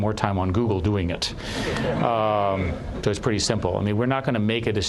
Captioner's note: laughter